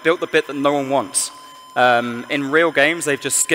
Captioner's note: none